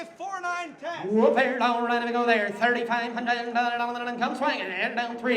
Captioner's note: auctioneer chanting